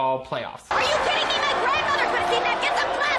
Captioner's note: audience cheering